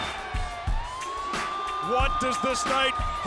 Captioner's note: sirens screeching